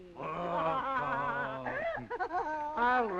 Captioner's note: laughing